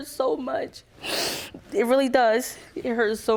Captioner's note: crying